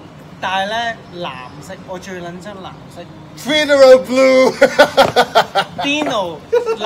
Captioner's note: laughter